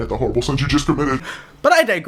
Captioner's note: gasp